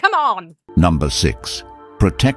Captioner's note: AI Voice